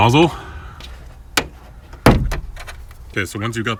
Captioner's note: plastic rivets popping